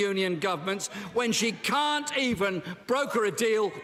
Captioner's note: none